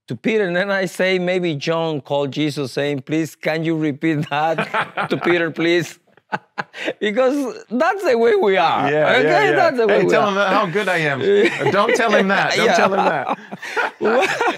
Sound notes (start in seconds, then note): 4.3 group laughing; 6.2 laughs